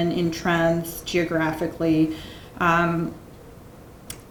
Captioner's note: none